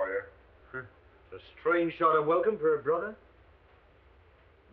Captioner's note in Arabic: يسخر